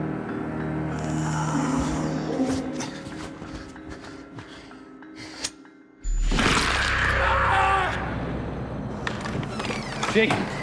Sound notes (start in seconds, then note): 0.9 moaning; 6.6 screaming